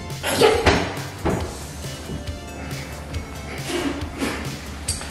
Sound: banging on the counter

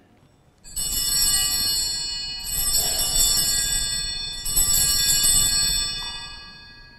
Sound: bells ringing

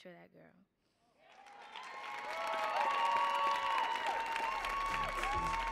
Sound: audience cheering and applauding; lively music

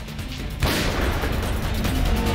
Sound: gunshot

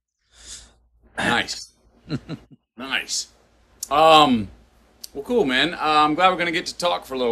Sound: Sadhguru laughs

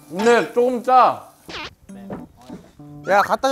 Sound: boo

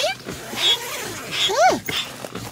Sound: zipper sound

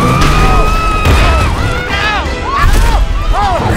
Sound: all screaming and grunting

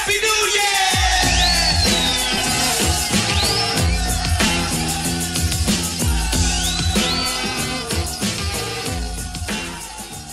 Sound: celebration noises

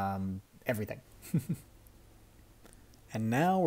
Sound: chuckles

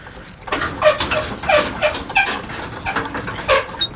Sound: metal creaking

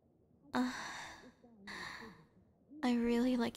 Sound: soft moan

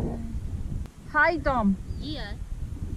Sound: speaks Swahili

